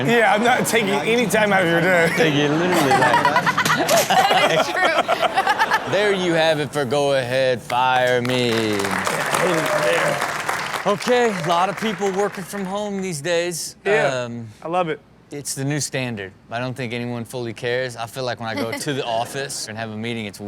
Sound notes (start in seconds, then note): 3.4 Chanel laughing; 7.6 audience applauding